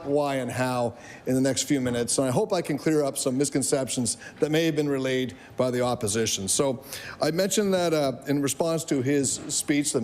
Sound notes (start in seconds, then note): none